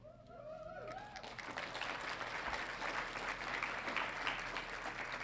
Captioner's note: audience applauding